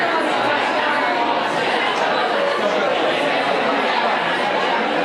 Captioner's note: people chattering